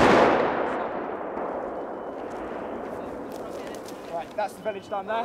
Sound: explosion

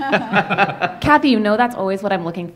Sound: laughter

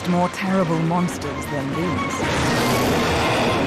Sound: dinosaurs shrieking

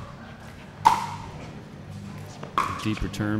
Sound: ball bouncing

